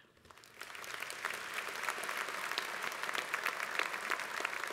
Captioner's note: applause